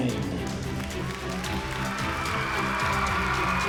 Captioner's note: crowd cheering